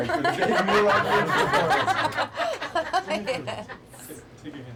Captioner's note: laughs